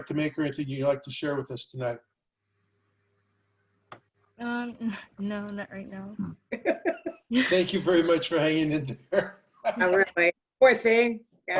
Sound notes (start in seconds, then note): 6.5 laughter; 9.3 laughter